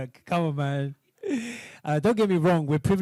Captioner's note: laughs